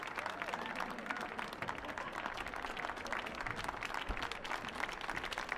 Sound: audience applauding

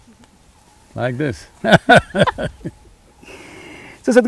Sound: both laugh

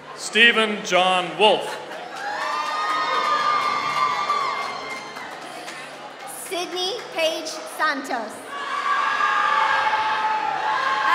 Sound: applause; applause

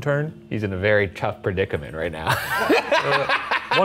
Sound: laughs

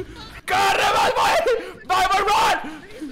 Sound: in Spanish; in English

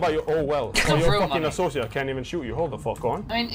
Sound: snickers

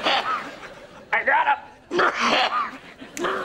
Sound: coughing

